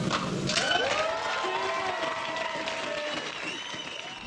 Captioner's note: applause